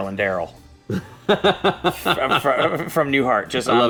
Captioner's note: laughs